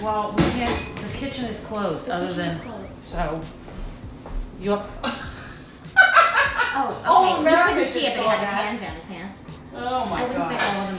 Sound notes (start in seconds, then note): 5.8 woman laughing